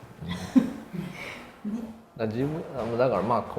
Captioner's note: laughs